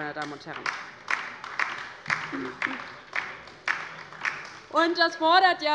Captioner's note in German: Beifall bei der LINKEN